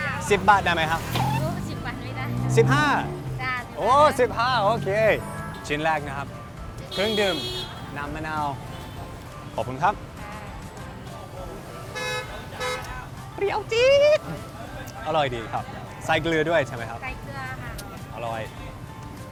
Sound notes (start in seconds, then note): 11.8 car horn sound